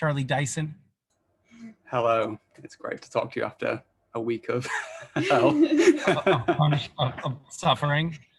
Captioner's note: laughter